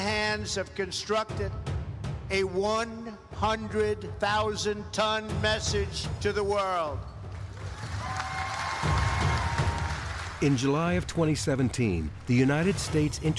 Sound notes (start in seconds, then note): 7.4 applause